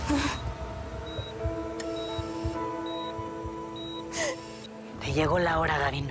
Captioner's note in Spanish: Sollozos